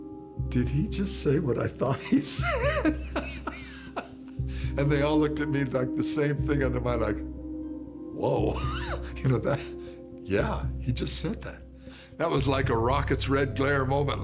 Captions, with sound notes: "Did he just say what I thought he said?" (laughs) And they all looked at me, like, the same thing on their mind, like, "Whoa!" (laughs) You know, that, "Yeah, he just said that!" That was like a rocket's red glare moment.